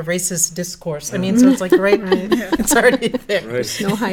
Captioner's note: laugh